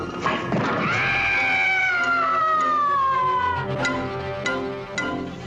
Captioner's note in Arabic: شخصية تصرخ